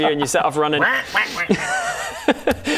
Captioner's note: quaack quack quack quack